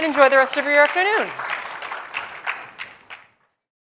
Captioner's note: applause